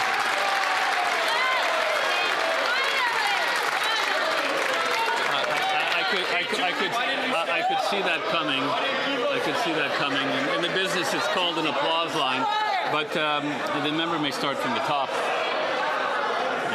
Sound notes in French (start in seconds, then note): 4.4 applaudissements; 13.1 voix de l'interprète